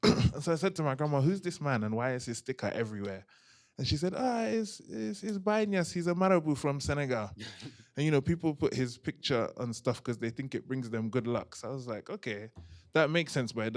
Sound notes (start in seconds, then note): 5.0 non-english